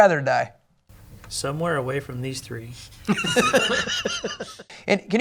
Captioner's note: laughter